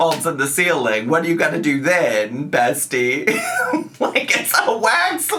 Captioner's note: laughs